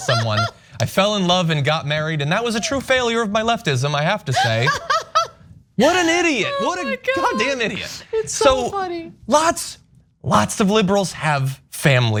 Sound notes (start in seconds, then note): 0.0 laugh; 4.3 laugh